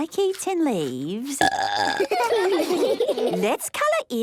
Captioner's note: burping; children giggling